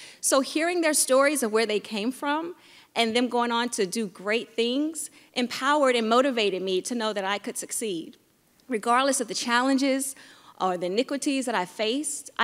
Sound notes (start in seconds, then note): none